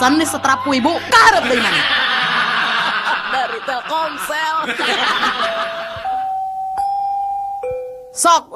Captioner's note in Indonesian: tertawa